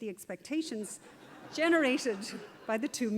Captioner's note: crowd Laughs